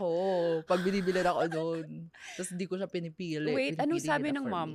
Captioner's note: laughs